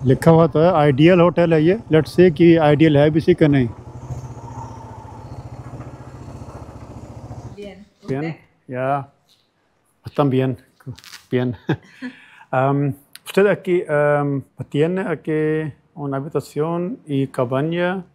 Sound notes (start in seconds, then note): 7.4 speaking in Spanish